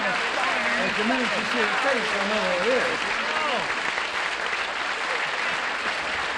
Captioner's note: chatter; applause